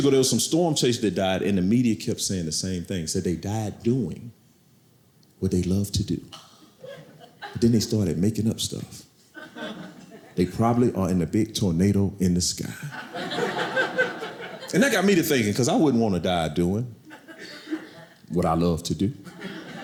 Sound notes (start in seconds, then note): 12.8 audience laughing